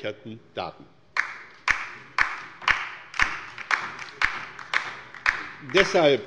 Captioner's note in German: Beifall bei der LINKEN